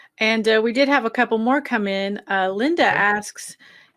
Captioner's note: none